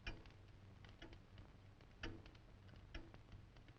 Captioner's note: clock ticking